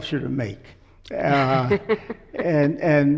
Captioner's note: laughs